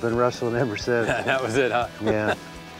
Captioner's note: laughs